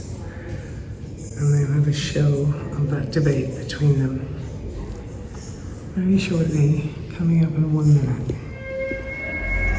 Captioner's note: siren